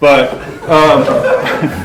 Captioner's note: laughter